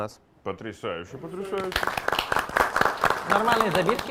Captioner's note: applause